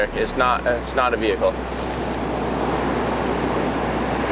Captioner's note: water rushing